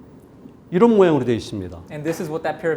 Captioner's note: speaking in Korean